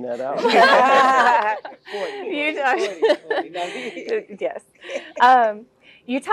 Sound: laugh

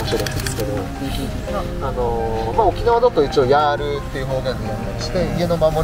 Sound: laughs

